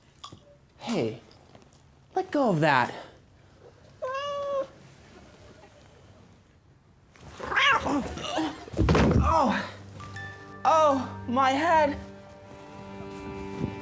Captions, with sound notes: Hey, let go of that. [meows] [growling] Argh! Oh, my head!